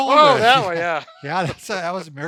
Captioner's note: laughs